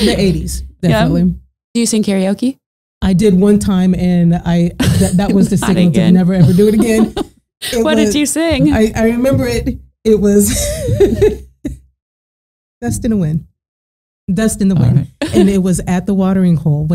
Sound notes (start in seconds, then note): 6.4 laughing; 10.9 laughing